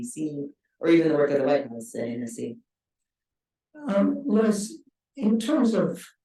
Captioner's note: speaking faintly